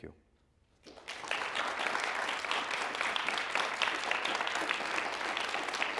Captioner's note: applause